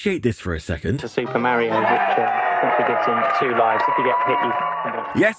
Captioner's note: audience cheering enthusastically